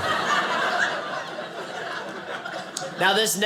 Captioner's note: audience laughing